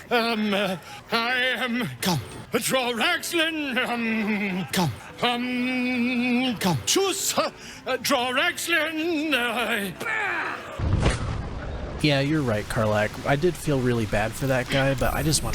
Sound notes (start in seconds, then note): 10.0 grunts; 10.9 door slams